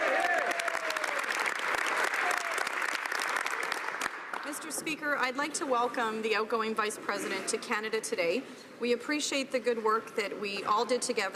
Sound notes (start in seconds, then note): 1.9 speaking French; 6.5 some Applause